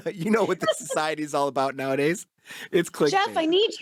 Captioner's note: laughs